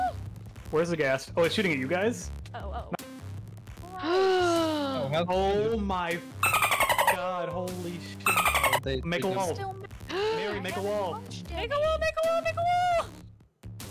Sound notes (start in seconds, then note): 5.0 gasp